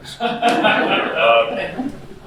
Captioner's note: laughing